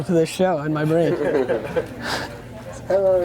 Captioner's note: laughter